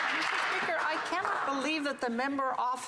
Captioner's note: some Applause